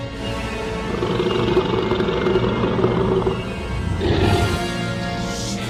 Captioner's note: creature growling